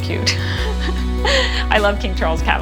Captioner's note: woman laughs